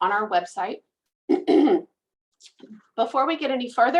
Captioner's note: clears throat